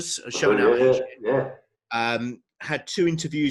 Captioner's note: murmurs